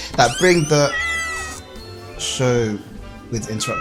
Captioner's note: cat walks in meowing